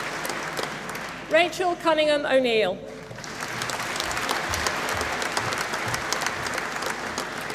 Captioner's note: applause